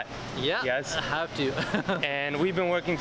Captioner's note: chuckles